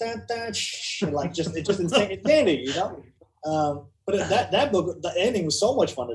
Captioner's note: makes exciting music sounds